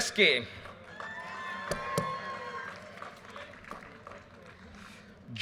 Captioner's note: audience cheers and applause